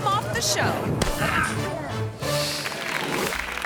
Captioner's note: person grunts; audience clapping